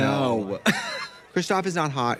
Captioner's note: Katya laughing